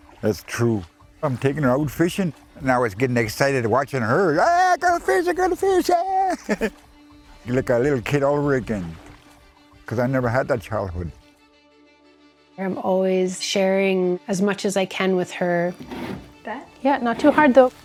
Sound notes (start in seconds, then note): 6.2 laughter; 11.7 inspiring music continues